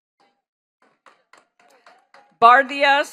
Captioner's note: attendees clapping